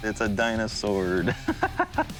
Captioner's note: laughing